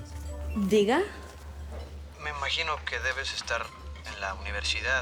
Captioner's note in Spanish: Suena el celular